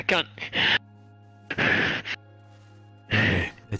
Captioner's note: breath